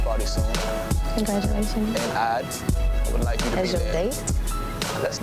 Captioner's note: overlapping chatter